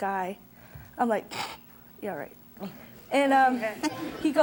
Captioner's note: scoffs